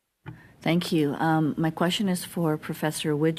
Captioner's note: speaking French